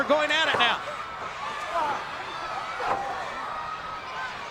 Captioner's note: crowd yelling